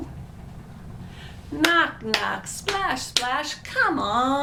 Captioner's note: claps